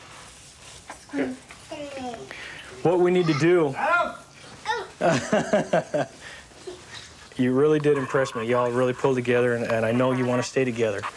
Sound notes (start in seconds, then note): 4.6 shouting; 5.0 laughing